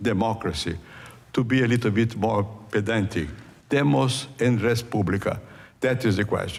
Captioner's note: non-english speech